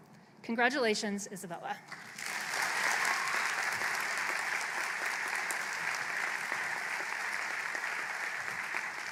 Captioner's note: applause